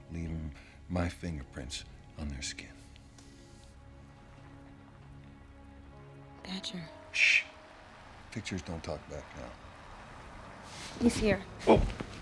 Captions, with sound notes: leaving my fingerprints on their skin. (car approaching) - Badger. - Sh! Pictures don't talk back now. - He's here. - Oh!